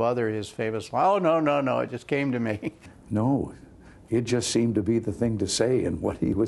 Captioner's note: laughter